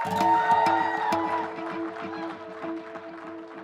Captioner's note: applause